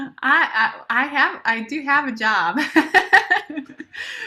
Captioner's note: laughter